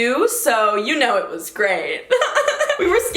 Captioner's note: laughs